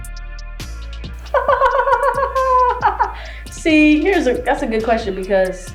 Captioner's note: laughs